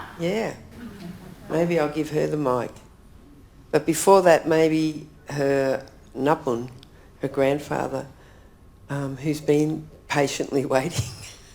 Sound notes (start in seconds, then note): 5.4 speaks in foreign language